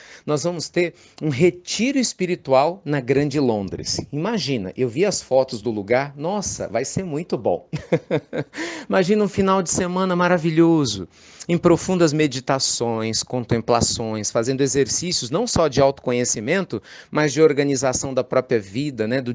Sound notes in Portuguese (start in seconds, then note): 7.7 Risos